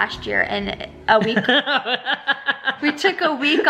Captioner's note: laughing